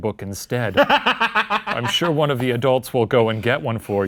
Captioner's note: laughing